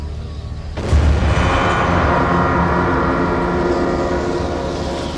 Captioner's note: bomb explodes